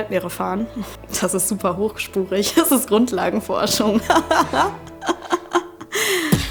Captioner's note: laughter